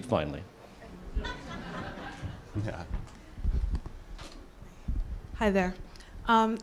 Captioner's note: laugh